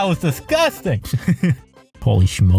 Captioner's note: laughs